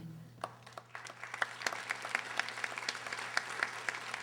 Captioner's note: audience applauding